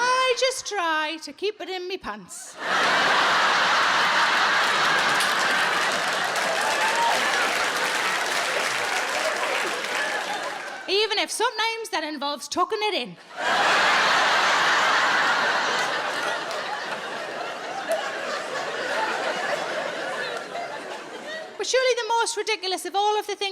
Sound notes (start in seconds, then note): 2.5 audience laughs; 13.2 audience laughs